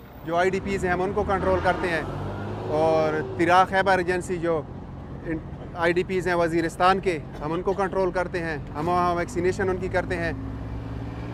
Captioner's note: non-english speech